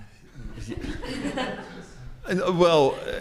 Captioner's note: attendees laugh